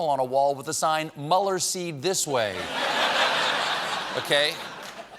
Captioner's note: laughter